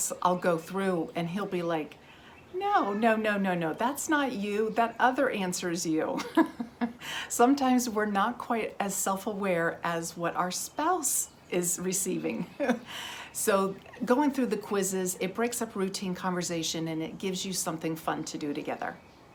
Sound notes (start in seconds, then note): 6.1 laughs; 12.4 laughs